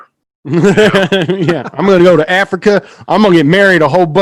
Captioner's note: laughs